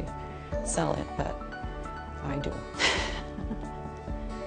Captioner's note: laughs